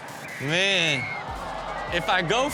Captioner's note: audience groans